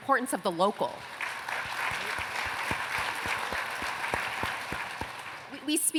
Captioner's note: applause